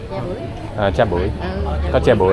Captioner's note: speaking Vietnamese